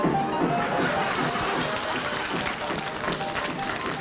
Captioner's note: chuckling; applause